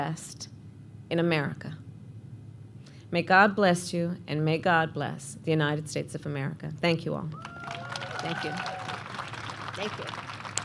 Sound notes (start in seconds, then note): 5.8 applause